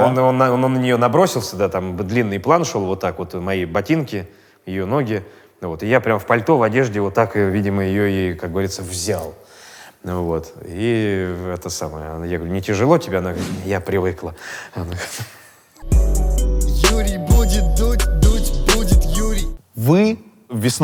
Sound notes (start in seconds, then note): 14.9 chuckles; 15.8 title theme